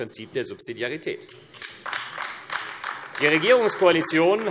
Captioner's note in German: Beifall AfD